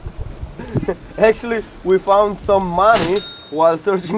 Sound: ka-ching

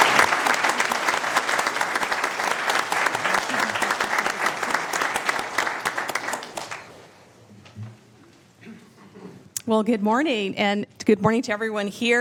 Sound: applause

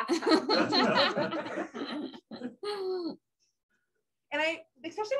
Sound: laughter

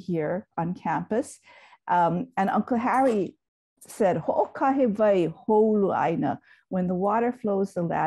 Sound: speaks in Hawaiian

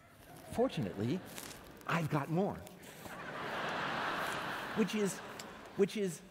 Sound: laughter

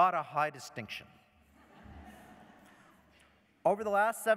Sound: laughter

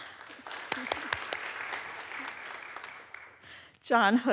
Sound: audience applauds

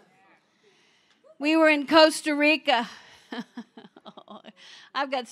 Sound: laughs

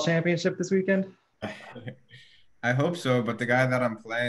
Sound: giggles

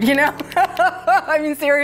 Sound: laughing

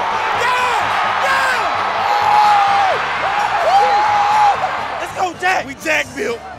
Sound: screaming

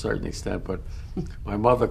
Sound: laughs

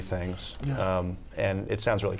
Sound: laughs

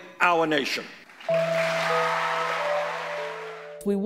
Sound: applause

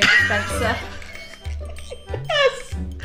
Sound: laughing

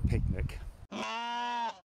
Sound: sheep baaing

